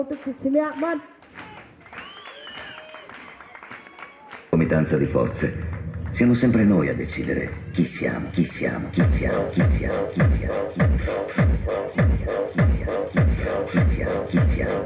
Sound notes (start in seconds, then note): 0.0 applause; 2.8 speaking first nation language